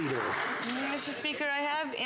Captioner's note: some Applause